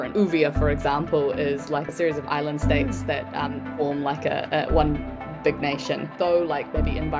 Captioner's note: none